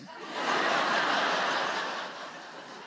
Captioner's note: audience laughs